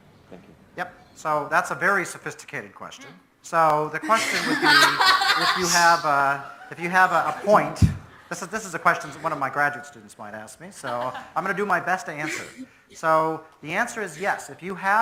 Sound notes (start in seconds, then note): 4.0 students online all laughing; 7.5 audience laughs